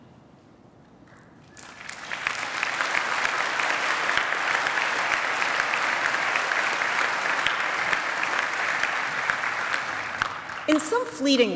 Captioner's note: applause